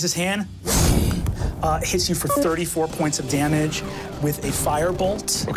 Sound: mimics wind howling

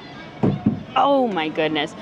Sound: ball thudding

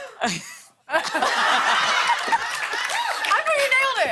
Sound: laughter

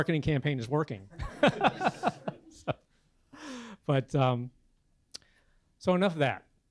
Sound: laugh

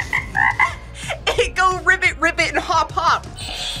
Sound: frog ribbits; laughs; buzzer rings

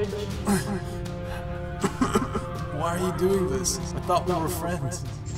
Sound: grunts and coughs

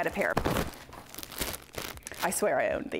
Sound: packaging crinkles

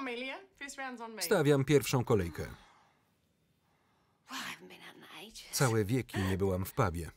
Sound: laugh loudly

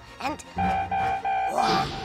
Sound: siren beeping

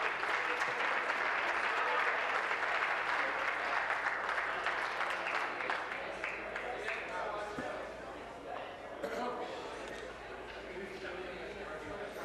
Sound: applause

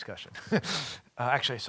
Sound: chuckling

